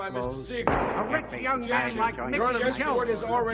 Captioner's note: gavel thunks; everyone talking